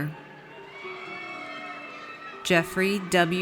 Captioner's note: audience cheers